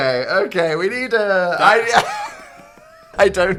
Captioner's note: laughs